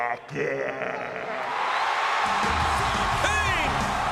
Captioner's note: crowd cheers